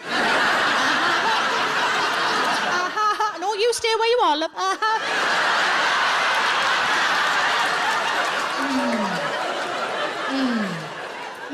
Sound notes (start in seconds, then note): 0.0 audience laughs